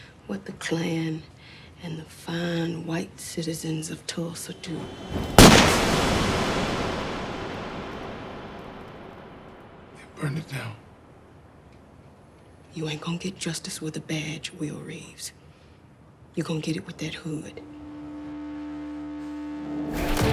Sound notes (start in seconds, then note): 4.5 gunshot